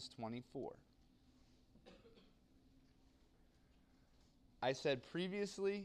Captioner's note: cough